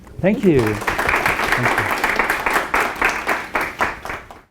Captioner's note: audience applauding